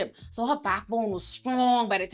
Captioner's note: none